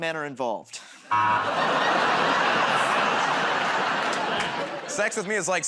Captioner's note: laughter, buzzer